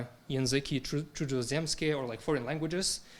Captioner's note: speaking in foreign language